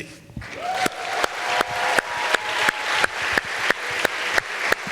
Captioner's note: audience applauds